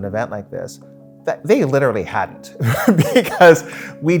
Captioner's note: laughs